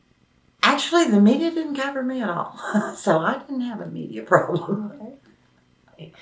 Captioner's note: laughs